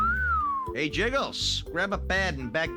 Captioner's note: whistles